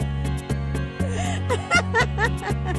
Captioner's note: laughs